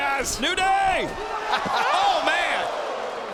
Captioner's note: laughs